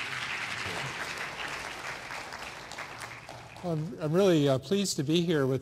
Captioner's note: applause